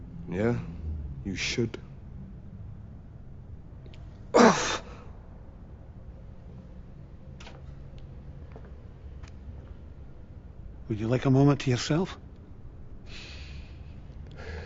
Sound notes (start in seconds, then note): 4.3 grunting